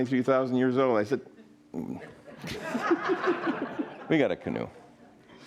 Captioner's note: audience laughing